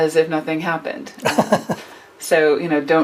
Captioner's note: laughs